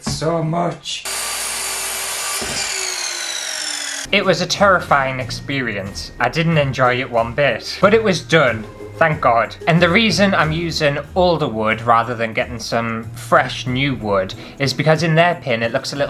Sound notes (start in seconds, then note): 1.0 evil Saw Sounds